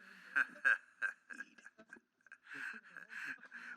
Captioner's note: laughs